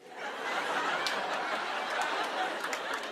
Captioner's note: laughter